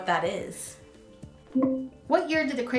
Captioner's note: beep